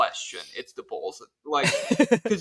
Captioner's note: laughs